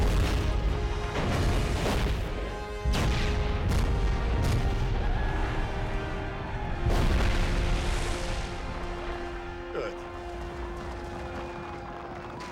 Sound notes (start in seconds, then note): 4.8 explosions; 4.9 cheering